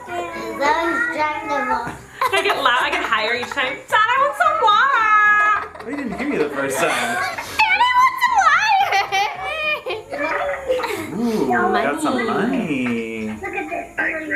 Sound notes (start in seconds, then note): 8.5 giggles